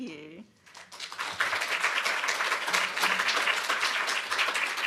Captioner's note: applause